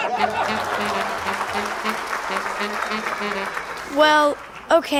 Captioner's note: saxophone music; laughter and applause